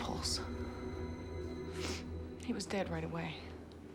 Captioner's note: sniffles